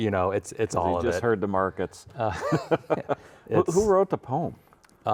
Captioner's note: laughs